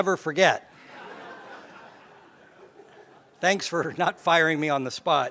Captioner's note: laugh